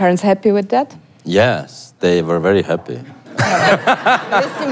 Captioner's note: laugh